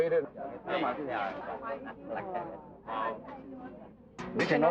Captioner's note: foreign language